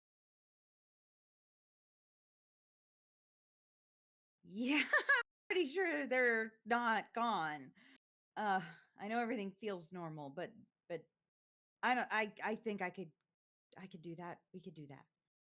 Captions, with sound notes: "Yeah, (chuckles) I'm pretty sure they're not gone. Ah, I know everything feels normal, but, but I don't, I, I think I could, I could do that, we could do that."